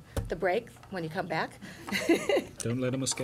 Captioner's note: laughter